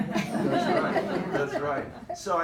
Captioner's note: group laughs